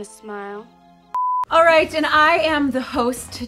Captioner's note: beep